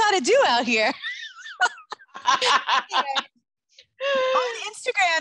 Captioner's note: both laugh